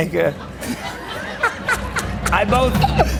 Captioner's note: laughter